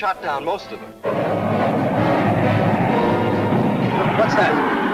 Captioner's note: plane engines roaring